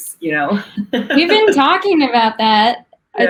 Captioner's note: laughs